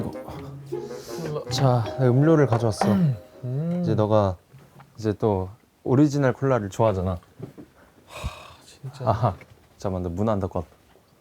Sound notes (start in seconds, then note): 8.1 deep sigh